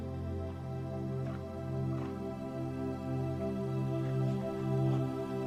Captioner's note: gravel crunching